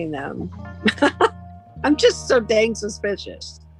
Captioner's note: laughter